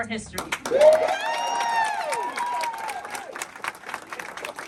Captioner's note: cheering